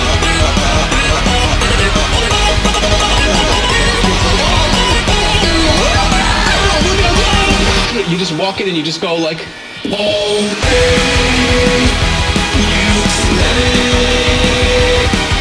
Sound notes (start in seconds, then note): 5.2 mimics screaming; 7.0 mimics explosion